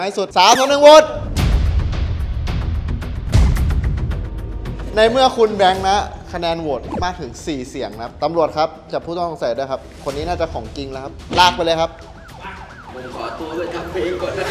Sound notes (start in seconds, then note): 1.2 tense music playing; 11.9 siren wailing